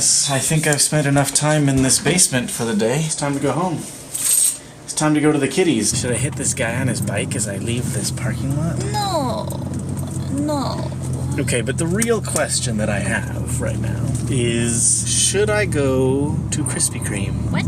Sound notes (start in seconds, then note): 4.2 keys jingle; 9.2 in a strange accent